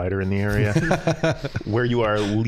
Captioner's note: all laughing